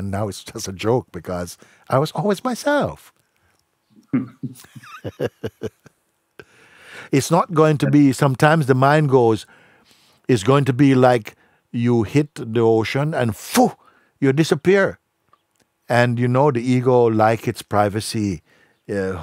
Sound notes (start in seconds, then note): 4.1 und Fragender lachen